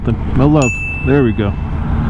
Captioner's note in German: Ding